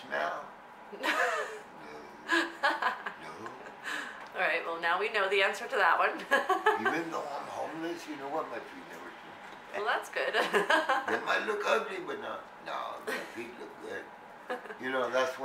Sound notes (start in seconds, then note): 6.3 laughs